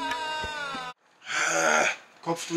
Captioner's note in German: Angestrengte Laute